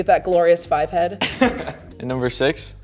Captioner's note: laughing